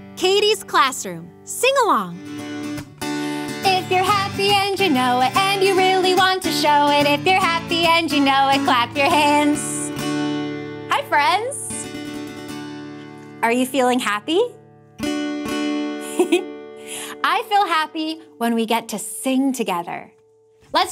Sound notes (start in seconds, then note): 12.0 guitar strumming; 16.0 giggling